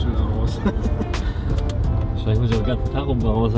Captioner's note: laughter